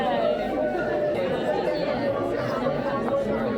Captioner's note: crowd chattering